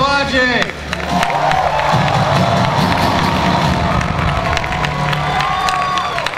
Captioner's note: audience cheering and applause